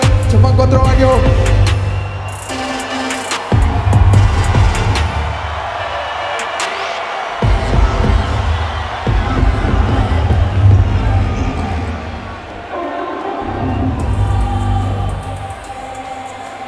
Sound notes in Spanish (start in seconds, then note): 4.9 Gritos